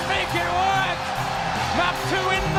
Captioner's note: crowd cheering